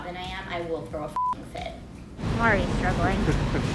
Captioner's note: beep